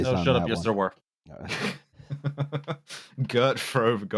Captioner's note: laughter